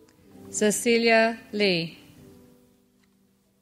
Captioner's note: none